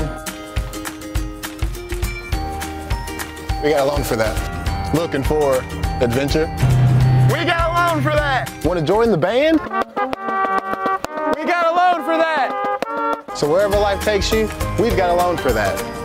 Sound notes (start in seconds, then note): 5.4 ATV Engine; 9.6 band Music